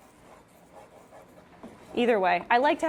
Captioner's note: spoon stirring in pot